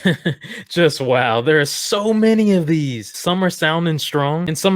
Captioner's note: laughs